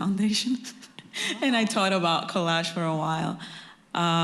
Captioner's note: laughs